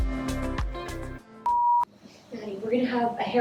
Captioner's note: beep